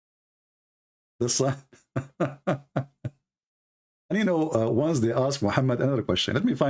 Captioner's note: Ketawa